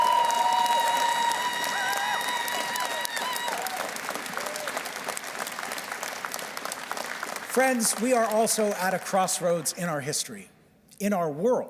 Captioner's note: cheers and Applause